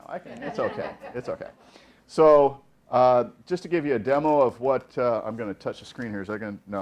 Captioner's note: laughing